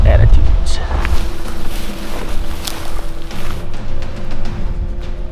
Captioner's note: footsteps crunching